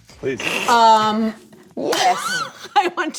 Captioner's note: laughter